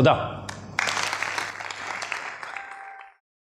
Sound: clapping

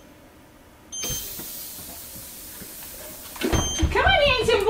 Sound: air whooshing

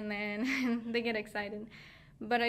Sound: laughing

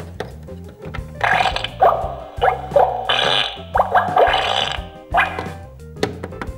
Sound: pooping sounds can be heard coming from the bathroom

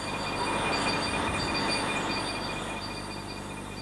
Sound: nature zounds

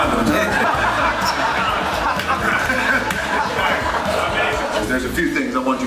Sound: laughing

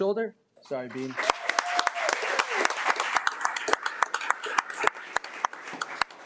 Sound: audience clapping

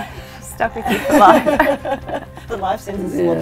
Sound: laughter

